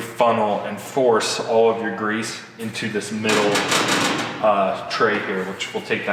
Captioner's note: metal clanging